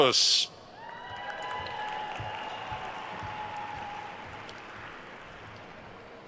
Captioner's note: attendees cheering and applauding